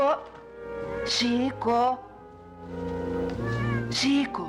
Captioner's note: cat Meows